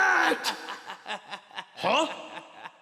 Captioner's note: laughter